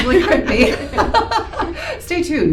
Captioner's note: laughter